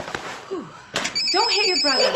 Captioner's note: papers crinkling; phone ringing; laughing